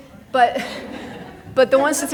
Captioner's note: people laughing